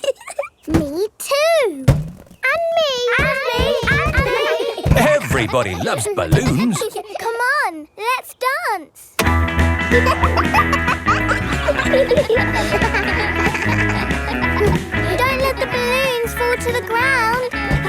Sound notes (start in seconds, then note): 0.0 chuckles; 9.2 pop music playing; 10.6 kids laughing